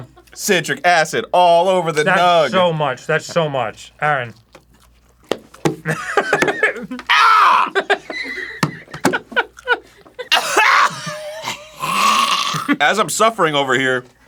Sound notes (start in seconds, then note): 5.2 flailing slaps; 7.3 wheeze laughing